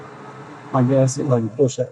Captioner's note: machinery whirring